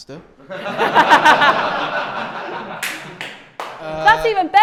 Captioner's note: laughter